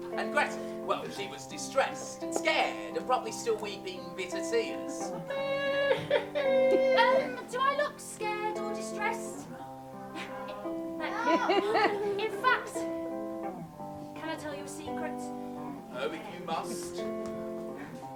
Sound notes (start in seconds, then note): 5.2 mockingbird starts weeping again